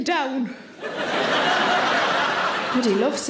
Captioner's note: audience laughs